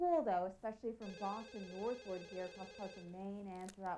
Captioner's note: telephone ringing